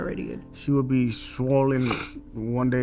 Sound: sniffles

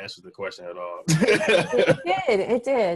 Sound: laughing

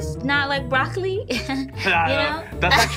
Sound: laughing

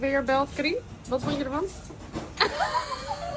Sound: laughter

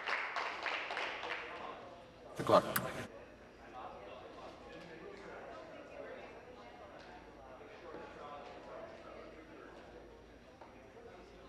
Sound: applause

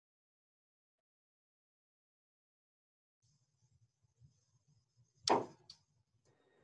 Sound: silence

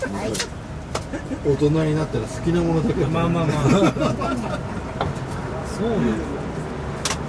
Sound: laughs

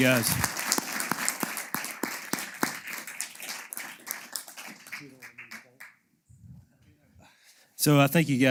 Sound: applause

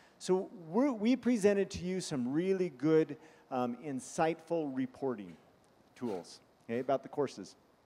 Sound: sniffing

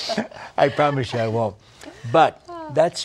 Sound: laughter

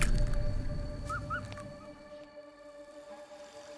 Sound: animal squeaking

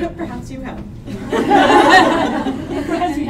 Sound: laughter

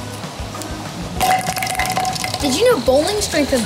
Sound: clattering

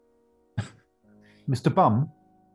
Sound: laughs

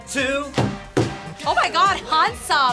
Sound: table thumps

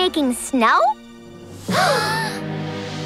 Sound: gasping

